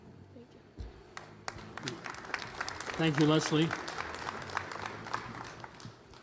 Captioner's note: applause